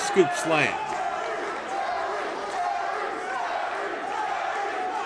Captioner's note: crowd chants